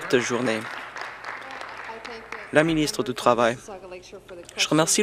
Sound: applause

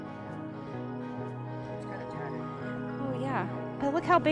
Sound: chattering

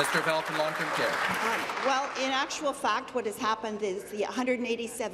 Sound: applause

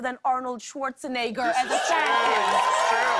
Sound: cheers and applause

